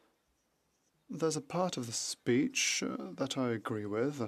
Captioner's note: speaking French